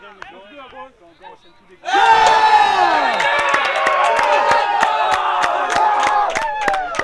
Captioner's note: cheering and Applause